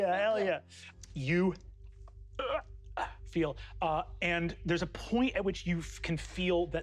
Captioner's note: gags